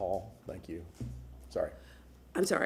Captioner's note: sounding gavel